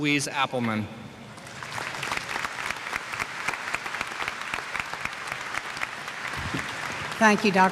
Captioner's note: applause